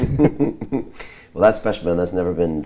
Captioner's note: laughing